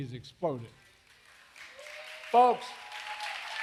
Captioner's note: applause